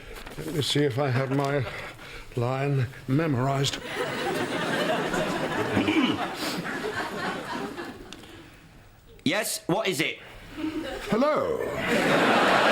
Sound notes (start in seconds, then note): 5.8 clears throat